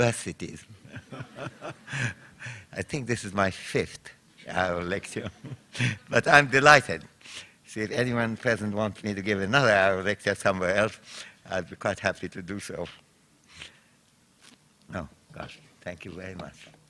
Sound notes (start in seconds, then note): 0.8 laughter; 5.1 chuckles